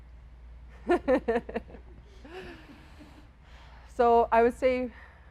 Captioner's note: giggles